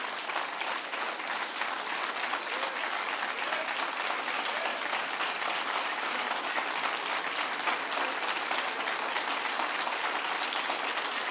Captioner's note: applause